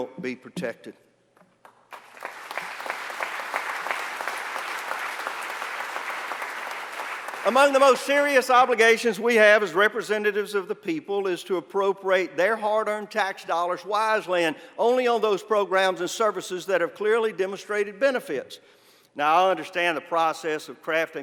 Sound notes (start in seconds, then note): 4.4 applause